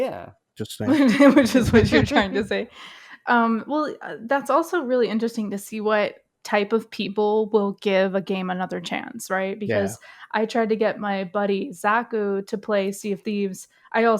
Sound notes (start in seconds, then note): 0.7 laughing; 0.7 laughs